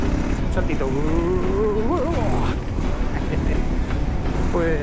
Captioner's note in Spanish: risas